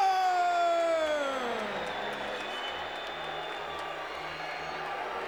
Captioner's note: crowd boos